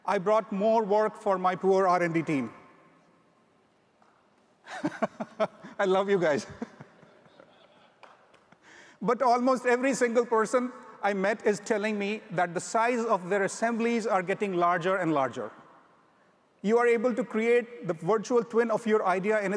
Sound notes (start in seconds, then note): 4.7 laughs; 7.3 audience members laugh